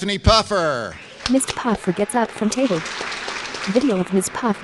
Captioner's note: applause